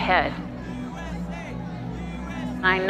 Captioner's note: chanting